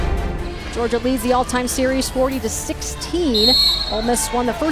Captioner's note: voiceover